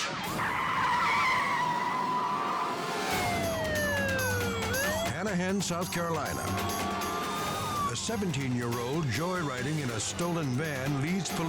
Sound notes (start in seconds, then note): 0.0 tires screeching; 3.1 dramatic music; 3.1 sirens blaring